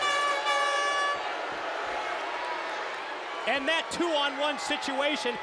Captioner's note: crowd chatter